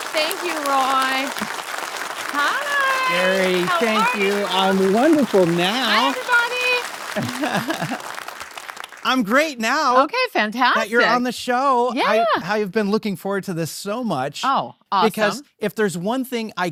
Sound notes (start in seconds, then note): 7.2 laughs; 7.2 audience clap